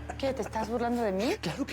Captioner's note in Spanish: risas